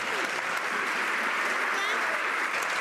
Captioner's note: some Applause